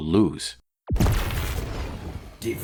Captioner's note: boom!